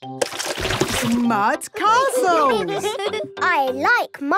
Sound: all giggling

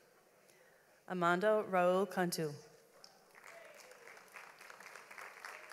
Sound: audience applauds

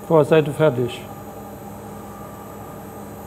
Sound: machine whirring

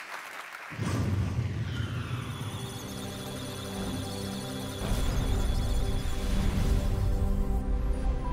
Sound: electronic sounds of data; musical tones

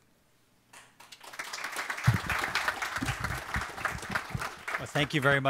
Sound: audience applauding

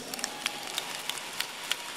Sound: applause

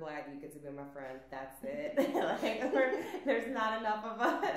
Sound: laughs

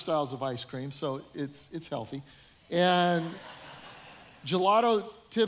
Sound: audience laughing

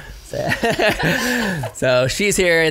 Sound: laughs

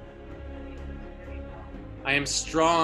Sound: audience responding

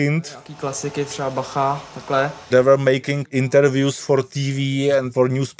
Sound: speaking Czech

